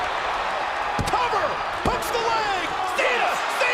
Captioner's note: hand pounding